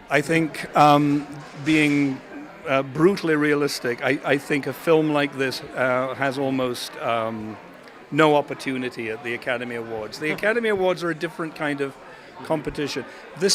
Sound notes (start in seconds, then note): none